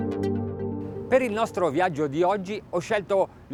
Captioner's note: speaks in foreign language